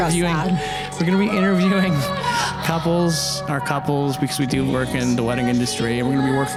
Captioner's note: laughs